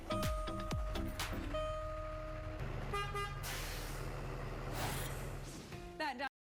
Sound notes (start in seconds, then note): 0.0 truck chiming; 2.8 truck horn toots; 4.7 logo whooshes